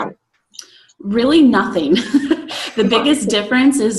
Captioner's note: laughs